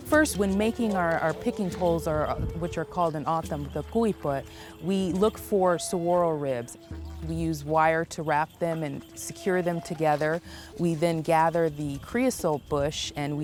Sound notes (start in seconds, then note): 3.0 speaking in a foreign language